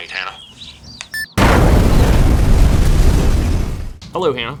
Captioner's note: beep, explosion